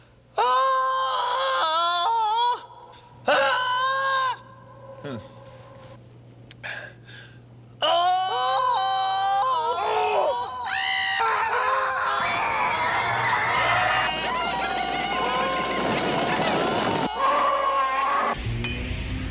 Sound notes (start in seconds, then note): 0.1 off-key; 16.6 roars